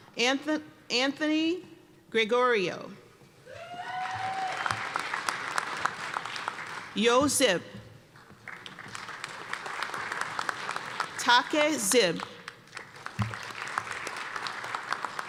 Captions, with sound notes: Anthony Gregorio. (cheers and applause) Ryo Grzyb. (applause) Take Grzyb. (applause)